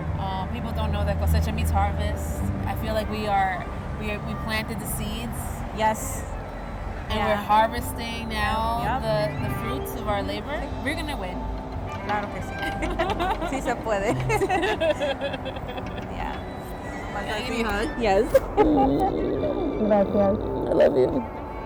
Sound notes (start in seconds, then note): 14.0 Ríe; 14.0 laughs